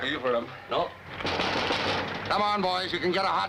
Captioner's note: knocking on door